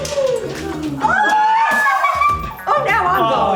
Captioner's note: cheers